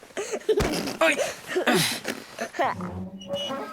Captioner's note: childish laugh